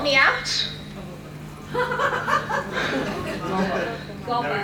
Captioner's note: audience laughs